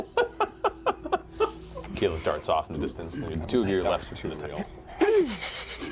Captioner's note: laughs